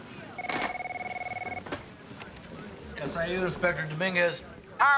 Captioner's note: phone ringing